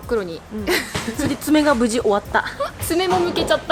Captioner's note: laughs